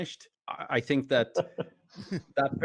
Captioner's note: laughing